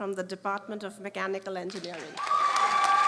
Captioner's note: applause